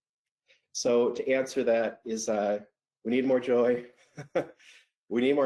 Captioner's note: laughs